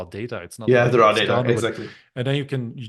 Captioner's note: both chattering